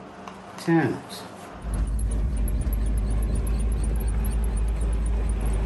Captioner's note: car engine roaring